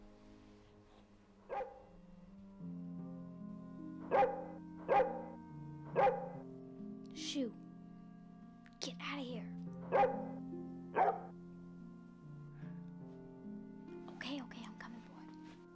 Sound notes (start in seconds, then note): 1.5 Atticus barking